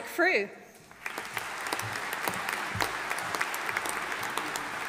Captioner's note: audience applauding